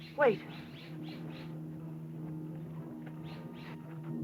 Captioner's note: animals chittering